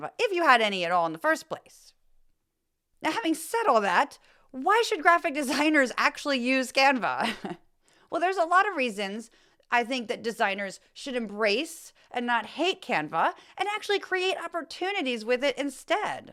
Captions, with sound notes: if you had any at all in the first place. Now, having said all that, why should graphic designers actually use Canva? [ laugh ] Well, there's a lot of reasons I think that designers should embrace, and not hate Canva and actually create opportunities with it instead.